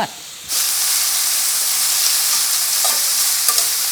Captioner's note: sizzling